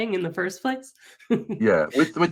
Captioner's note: laughs